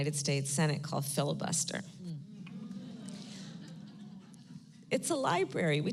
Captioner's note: laughter